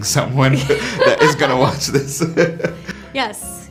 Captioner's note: laughs